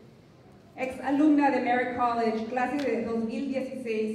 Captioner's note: non-english speech